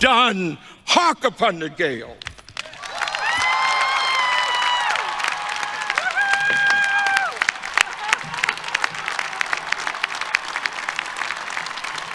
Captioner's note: applause